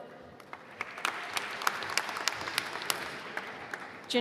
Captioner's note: applause